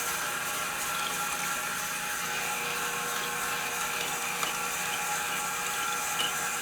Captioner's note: sawing machine whirring continues